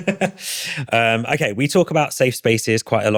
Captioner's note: laughing